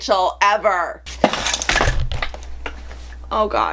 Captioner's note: crashing